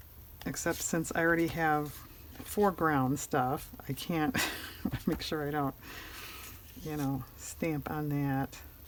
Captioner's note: laughs